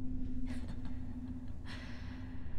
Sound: laughter

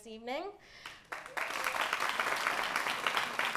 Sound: applause

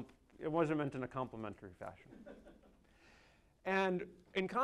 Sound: crowd laughing

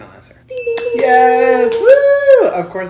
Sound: ding and clapping

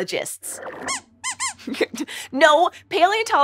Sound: squeaks squeaks

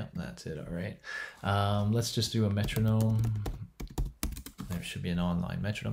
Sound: keyboard clanking

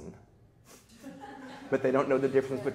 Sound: people laughing

